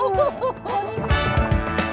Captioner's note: both laugh; upbeat music